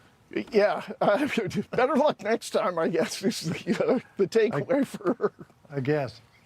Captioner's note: laughs